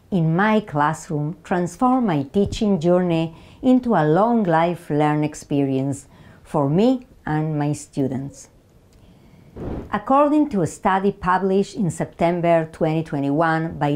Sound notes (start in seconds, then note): 9.5 slide whooshes